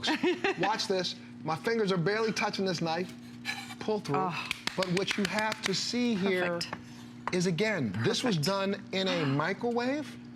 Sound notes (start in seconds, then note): 4.5 applause